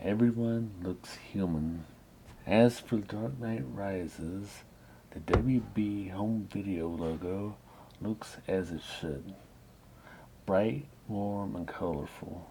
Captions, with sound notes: Everyone looks human. As for The Dark Knight Rises: (Thud noise) The WB Home Video logo looks as it should – bright, warm and colorful.